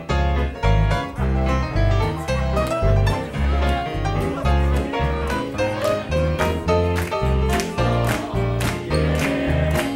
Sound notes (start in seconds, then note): 1.9 people chattering; 2.4 people clapping